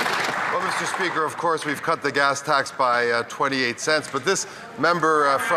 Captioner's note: applause